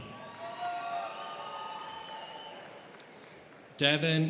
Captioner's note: students cheering